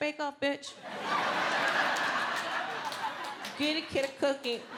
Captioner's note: audience laughing